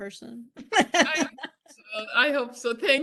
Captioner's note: laughs